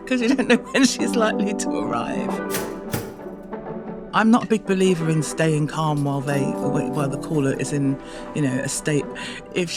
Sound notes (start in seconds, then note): 2.5 toaster popping